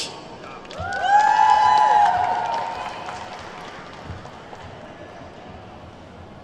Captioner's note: attendees whooping and clapping